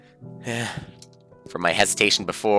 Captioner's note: sigh